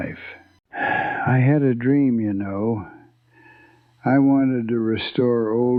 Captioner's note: sighs